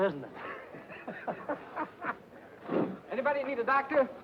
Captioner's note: happy laughing